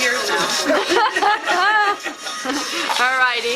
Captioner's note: everyone laughs